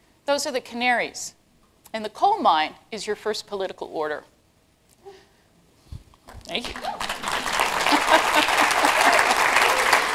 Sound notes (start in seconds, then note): 6.6 applause